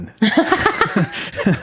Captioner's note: laughing